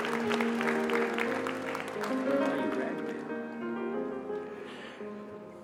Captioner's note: applause